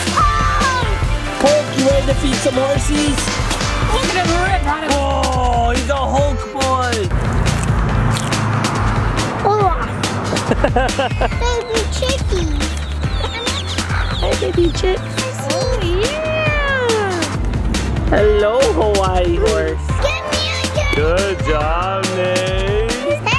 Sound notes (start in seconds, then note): 8.1 crunching a carrot; 10.4 laughing